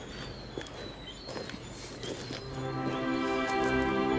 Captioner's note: footsteps sound; classical music playing